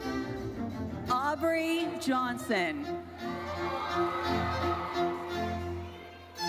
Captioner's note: audience cheers